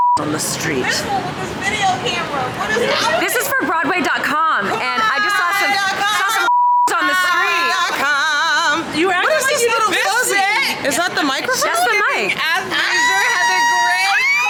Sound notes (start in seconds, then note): 0.0 beep; 6.4 beep